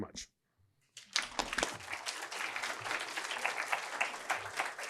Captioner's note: applause